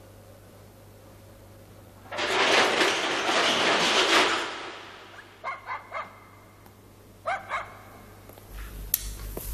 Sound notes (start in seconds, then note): 2.2 door sound